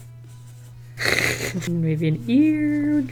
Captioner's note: chortle